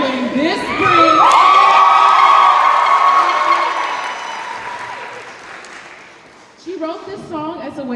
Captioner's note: cheers and applause